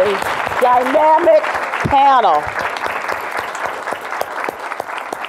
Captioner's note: audience applause